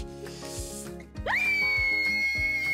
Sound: screaming

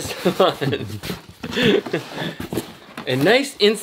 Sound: laughs

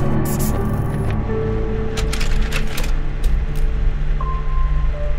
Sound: camera reel clicking

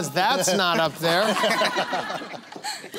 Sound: laughter

